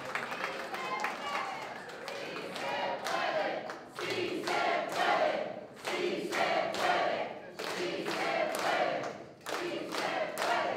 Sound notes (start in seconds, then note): 1.1 non-english speech; 1.8 chanting